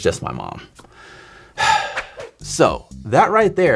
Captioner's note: sighs